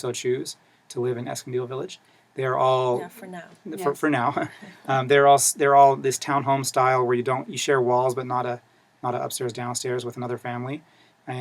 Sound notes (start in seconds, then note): 4.0 laugh